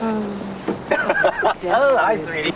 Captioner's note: laughs